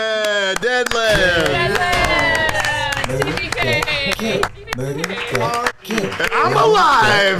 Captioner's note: cheering